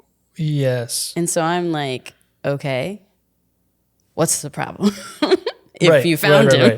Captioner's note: chuckling